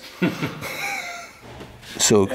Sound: laughter

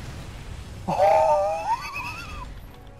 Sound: laughs

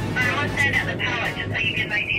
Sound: over the walkie-talkie

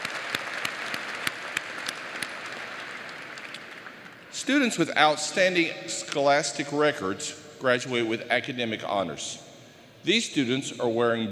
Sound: applause

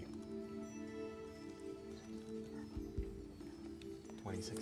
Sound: whispering

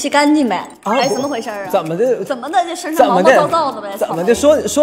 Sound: speaking in dongbei accent

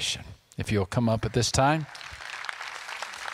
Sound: clapping

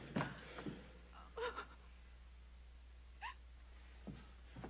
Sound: weeping continues offscreen

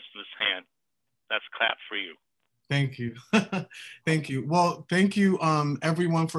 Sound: laughter

